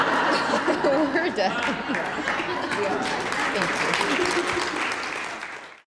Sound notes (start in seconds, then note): 1.5 applause